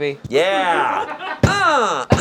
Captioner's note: group laughing